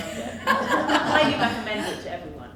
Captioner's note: audience laughs